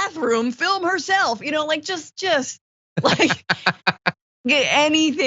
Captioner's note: laugh